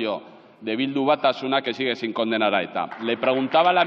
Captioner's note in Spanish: Aplausos